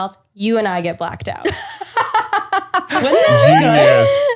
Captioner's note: laughter